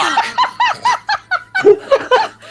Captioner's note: laughter